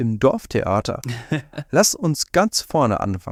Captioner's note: laughs